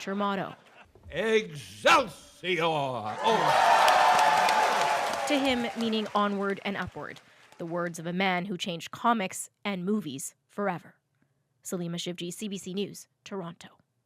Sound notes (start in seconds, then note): 7.1 cheers and Applause